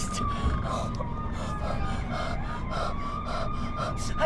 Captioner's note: panting